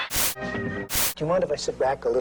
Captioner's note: static